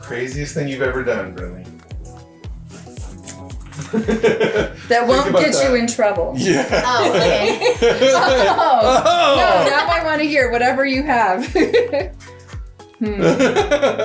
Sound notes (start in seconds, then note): 3.7 laughing; 8.6 laughing